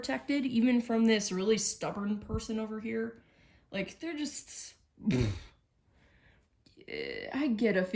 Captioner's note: raspberry noise of dismissal